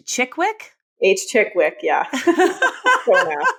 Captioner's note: laughing